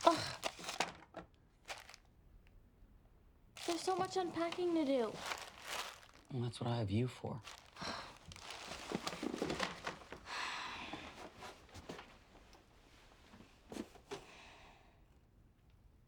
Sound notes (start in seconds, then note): 3.6 scoffs; 7.6 sighs